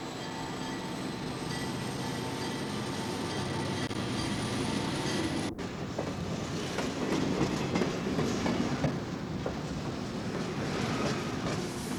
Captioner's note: train noises, wheels clacking